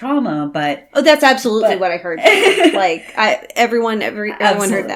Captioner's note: laughs